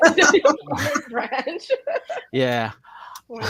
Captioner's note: laughing